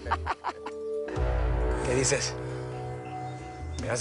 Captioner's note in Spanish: Carcajada